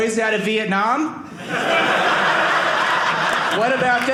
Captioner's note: audience laughing